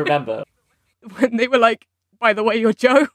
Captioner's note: laughing; laughing